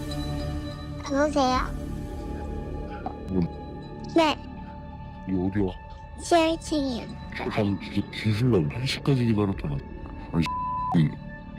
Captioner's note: voiceover